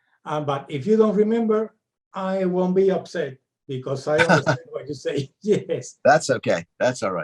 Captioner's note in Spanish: reímos